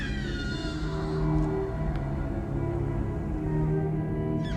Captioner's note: screams and cries